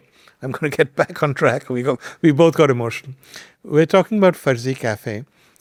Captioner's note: chuckles